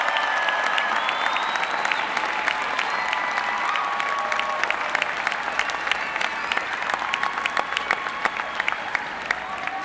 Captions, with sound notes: [APPLAUSE]. >> INTERIM DEAN FROM THE COLLEGE OF SCIENCE AND MATHEMATICS,